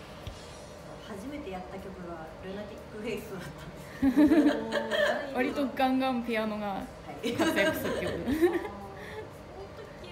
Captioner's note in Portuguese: risos